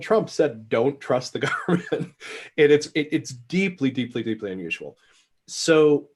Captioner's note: laughs